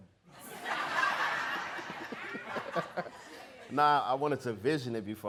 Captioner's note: audience laughing